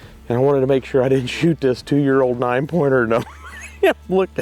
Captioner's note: laughs